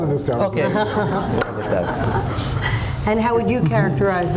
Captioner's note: laughter